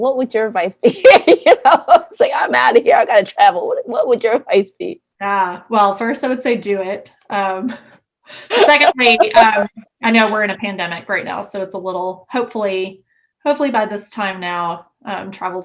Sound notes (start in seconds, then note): 1.0 laughs